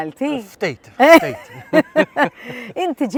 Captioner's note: both chuckle